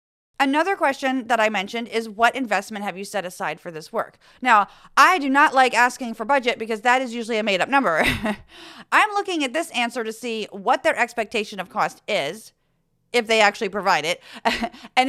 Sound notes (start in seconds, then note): 8.0 laugh; 14.4 laugh